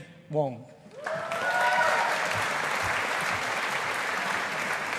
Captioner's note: audience applauding